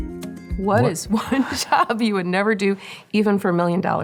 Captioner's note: chuckles